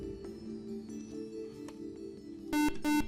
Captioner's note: buzzer